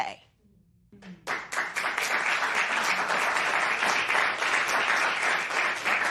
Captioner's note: applause